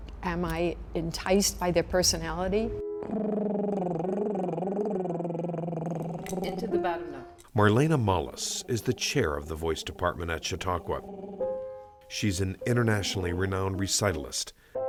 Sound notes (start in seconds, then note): 3.0 mouth trills